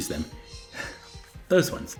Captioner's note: squawking